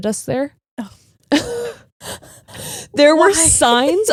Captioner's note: giggling